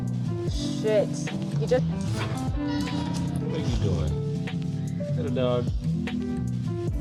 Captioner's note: meoow